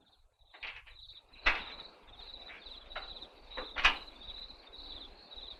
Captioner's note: crickets chirping